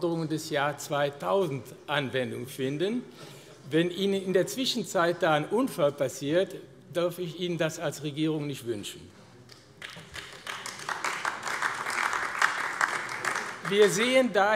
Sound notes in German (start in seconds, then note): 9.7 Beifall AfD